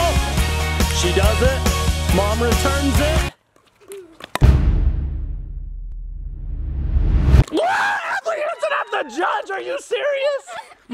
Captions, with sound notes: Oh! She does it. Mom returns it. (slamming sound) (whoosh) Whoa, Adley aims it at the judge. Are you serious?